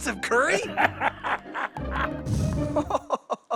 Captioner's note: laughing